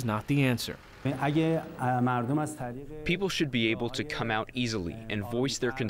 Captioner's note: through translator